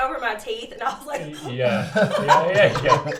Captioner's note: laughs